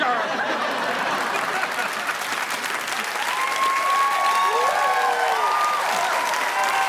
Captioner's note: audience laughing; audience applauding